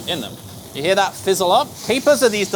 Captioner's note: capers sizzling